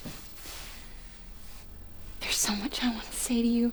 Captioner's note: voice breaking